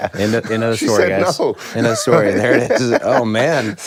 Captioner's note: laughs